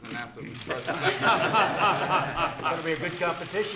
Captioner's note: laughter